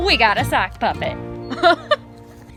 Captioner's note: laugh